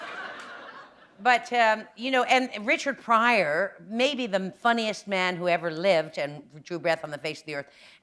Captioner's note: laughter